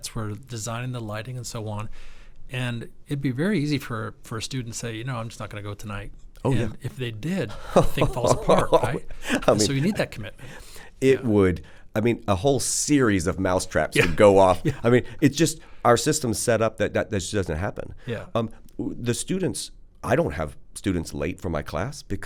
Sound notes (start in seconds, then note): 14.5 chuckles